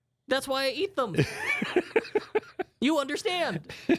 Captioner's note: laughs